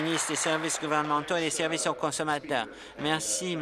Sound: applause

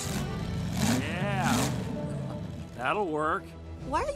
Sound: engine revving

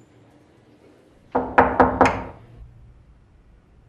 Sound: door knocking

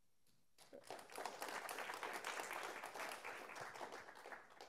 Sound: students applaud

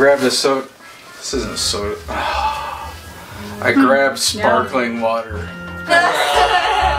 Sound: groans; laughs

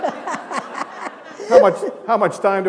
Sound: laughter

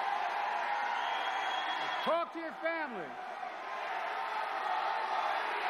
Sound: cheers and applause

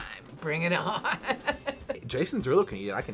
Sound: laughs

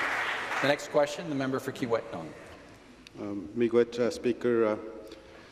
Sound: some Applause

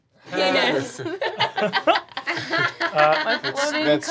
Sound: laughing

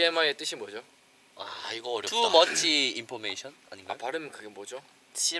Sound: korean style pronunciation

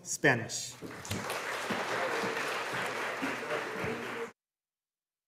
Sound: audience applauding

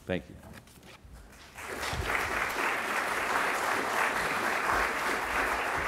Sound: applause

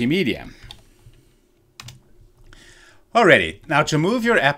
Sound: pointer clicking

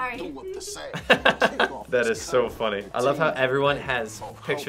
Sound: laughs

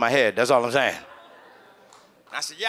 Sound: audience chuckles

